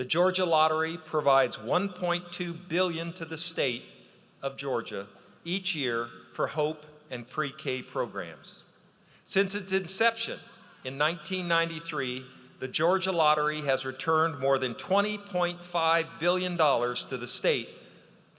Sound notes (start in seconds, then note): none